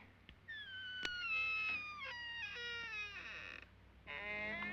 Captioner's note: door creaking